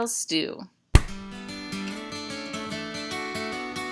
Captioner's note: hand slap